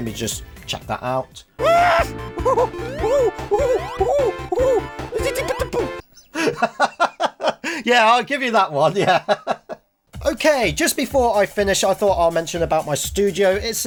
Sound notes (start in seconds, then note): 1.7 yelling; 6.3 laughing; 8.9 laughing